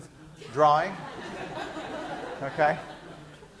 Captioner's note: laughter